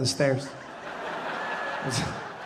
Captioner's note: audience laughing